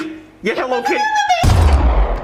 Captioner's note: Karen sounds